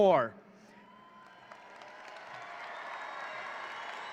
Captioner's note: audience cheering